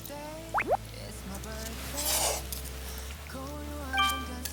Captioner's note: slurp